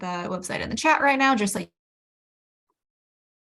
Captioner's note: muted